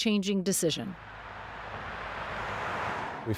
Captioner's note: car engine whirring